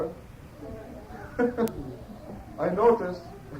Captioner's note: laughter